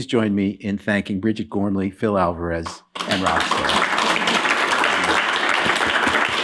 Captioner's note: applause